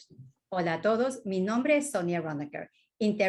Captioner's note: speaking spanish